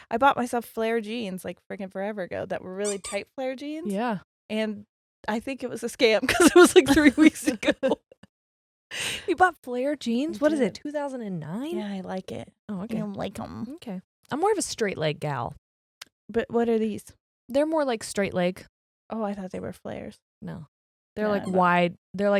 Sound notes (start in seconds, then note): 2.8 bog toy squeaks; 7.9 both laughing